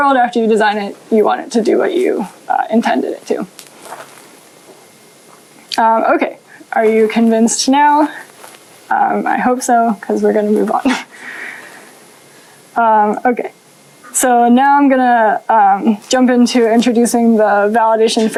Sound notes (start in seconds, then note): 10.8 chuckles